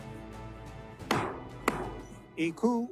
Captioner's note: gavel bangs twice